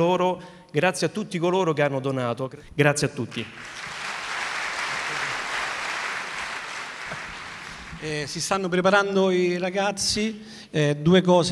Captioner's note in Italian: Applauso